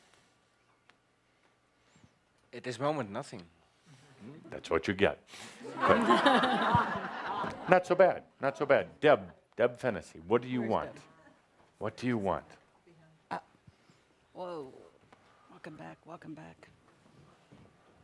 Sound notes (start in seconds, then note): 5.6 laughter